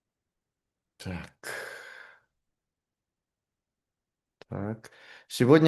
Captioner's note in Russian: вздыхает